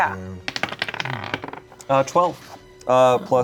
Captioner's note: dice rolling